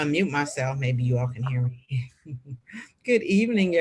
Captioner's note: laughing